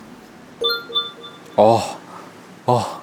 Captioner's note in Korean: 띠링